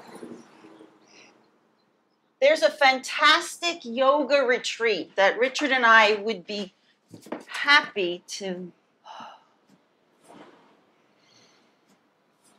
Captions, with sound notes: There's a fantastic yoga retreat that Richard and I would be happy to-- [sighs].